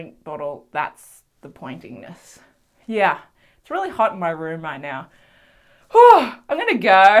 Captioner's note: big sigh